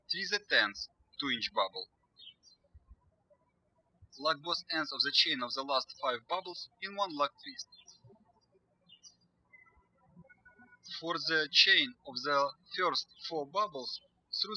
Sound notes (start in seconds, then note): 8.9 birds chirping